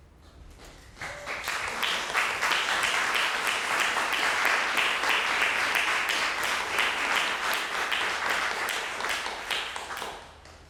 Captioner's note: applause